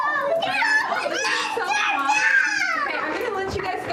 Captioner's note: children screaming